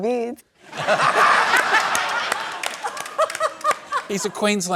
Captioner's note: laughter